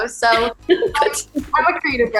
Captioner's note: laughs